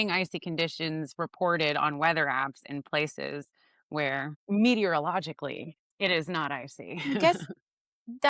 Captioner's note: chuckles